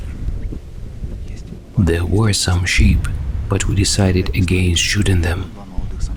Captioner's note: in a low voice